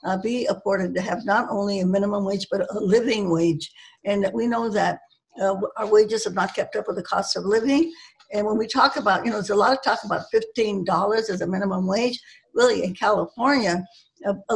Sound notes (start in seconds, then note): none